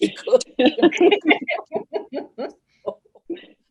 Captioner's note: all laughing